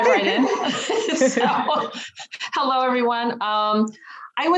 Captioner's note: panelists laughing